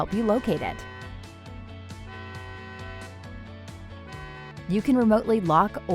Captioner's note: alarm beeping; bright music continues